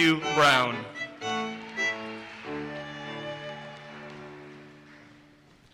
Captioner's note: audience cheers and applauses